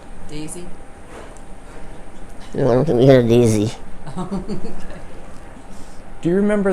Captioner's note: laughing